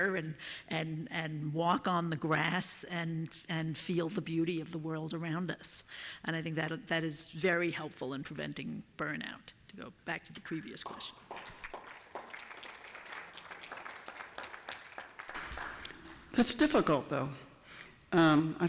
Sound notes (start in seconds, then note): 10.8 applause